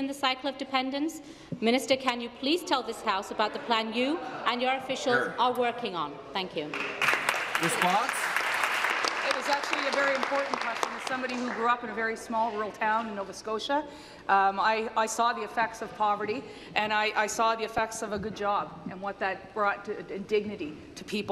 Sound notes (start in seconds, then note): 9.5 applause